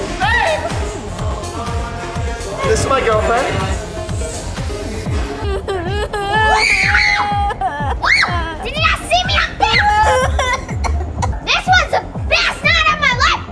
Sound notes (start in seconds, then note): 5.1 peter crying; 6.2 anna screaming